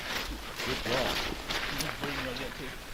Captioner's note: splash